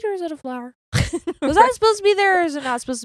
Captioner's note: chuckles